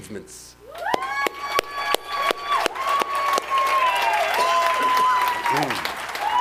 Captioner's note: audience applauding and cheering